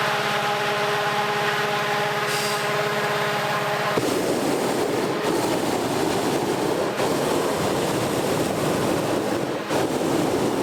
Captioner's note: hot air balloon sounds